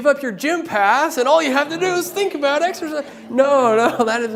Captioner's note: laughter